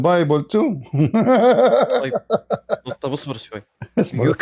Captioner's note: Ketawa